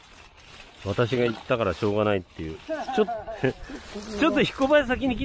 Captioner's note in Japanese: 笑い